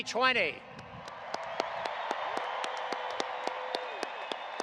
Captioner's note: audience applauding